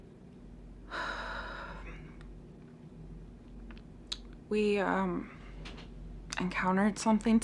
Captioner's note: sighs